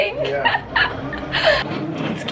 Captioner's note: laughing